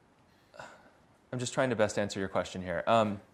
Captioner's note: sighs